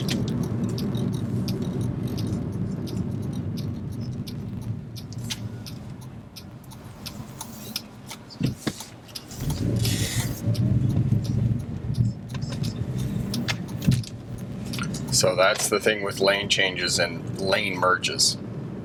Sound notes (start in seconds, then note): 0.2 turn signals clicking; 9.2 engine revving